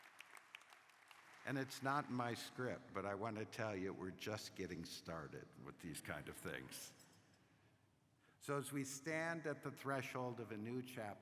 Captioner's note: applause